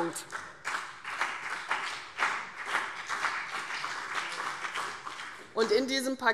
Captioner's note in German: Beifall CDU und BÜNDNIS 90/DIE GRÜNEN